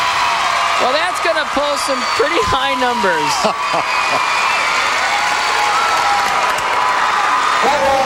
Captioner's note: crowd Cheering